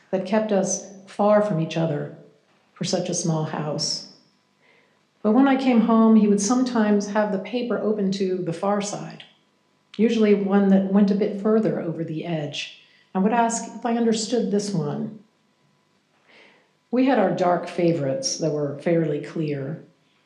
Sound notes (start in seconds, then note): none